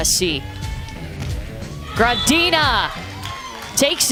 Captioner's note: crowd cheers